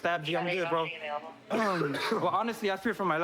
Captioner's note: coughs